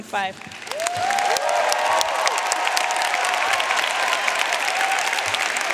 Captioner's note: audience cheering and applauding